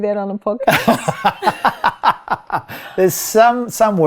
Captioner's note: laughing